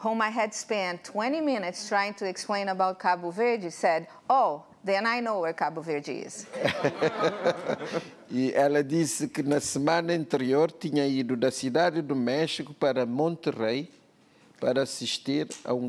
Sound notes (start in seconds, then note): 6.6 laughs; 8.7 speaking portuguese